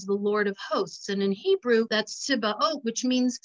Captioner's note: speaks in Hebrew